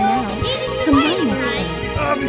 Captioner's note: whines